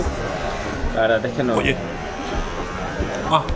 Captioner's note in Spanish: Motor